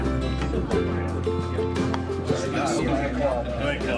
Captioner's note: people chattering; upbeat music